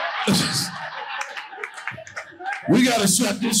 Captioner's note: audience laughing